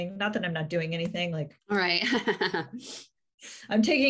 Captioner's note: soft laughter